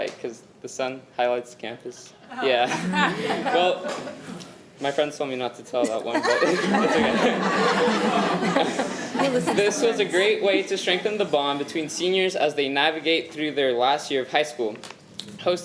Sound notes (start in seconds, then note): 2.3 audience laughing; 7.9 audience laughing